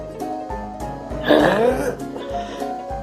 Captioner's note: grunting